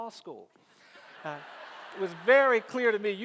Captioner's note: laughing